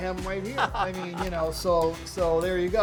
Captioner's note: laughter